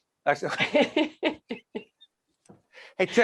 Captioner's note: laughing